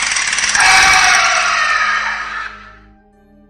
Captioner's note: ghost roar